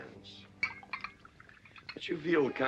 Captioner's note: liquor pouring